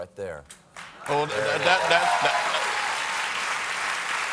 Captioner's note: applause